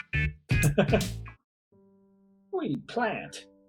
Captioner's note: chuckles